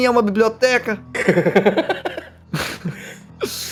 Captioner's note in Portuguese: risadas